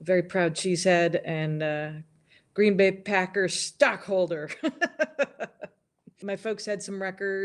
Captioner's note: laughs